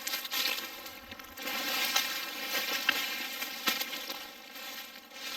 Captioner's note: leaves rustling loudly